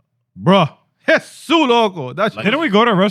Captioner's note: speaking In Foreign Language